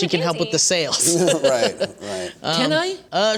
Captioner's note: laughter